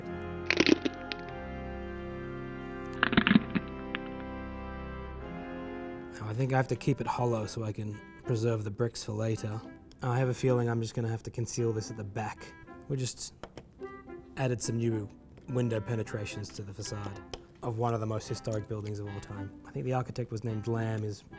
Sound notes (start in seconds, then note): 0.2 Lego crunches; 0.2 dramatic organ music; 3.2 Lego crunches